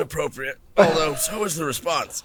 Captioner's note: laughs